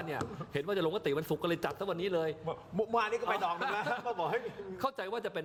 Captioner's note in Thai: เสียงหัวเราะ